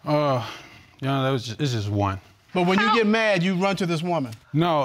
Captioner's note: sighs